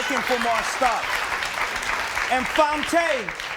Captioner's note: audience claps